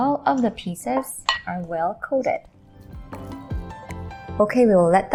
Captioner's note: spoon thuds